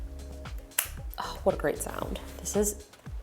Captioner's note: snaps